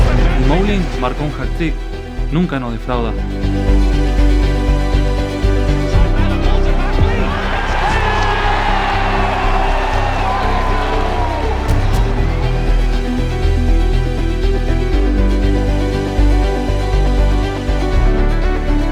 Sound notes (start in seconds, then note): 0.2 in Spanish; 7.9 crowd cheers